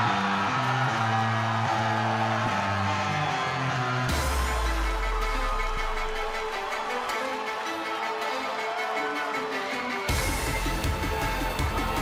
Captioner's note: crowd cheering